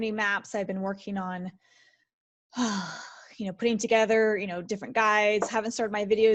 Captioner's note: sigh